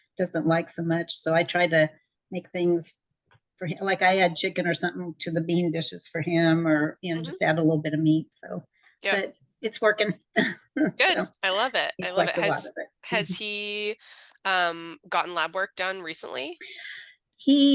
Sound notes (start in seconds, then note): 10.6 laughs